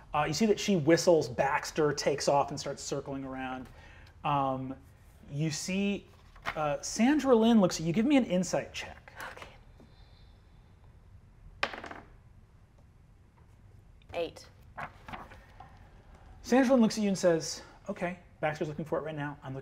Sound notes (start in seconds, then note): 11.6 die taps table